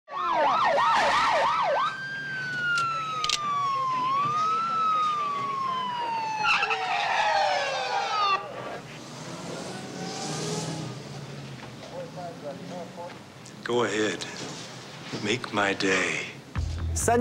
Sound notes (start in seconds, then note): 0.3 sirens blaring; 3.2 gun clicking; 6.3 tires screeching